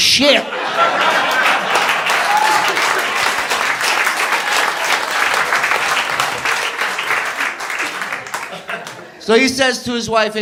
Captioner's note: applause